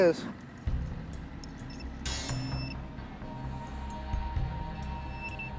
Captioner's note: beeping